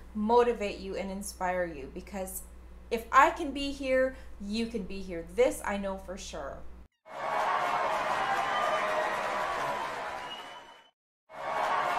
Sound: cheering

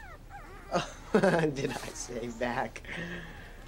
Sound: laughs

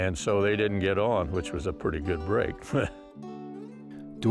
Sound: laughs

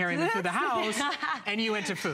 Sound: laughter

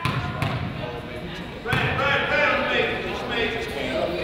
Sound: coach yells

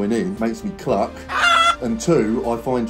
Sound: chicken clucking

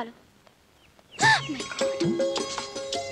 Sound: gasps

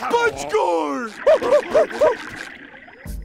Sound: grunting

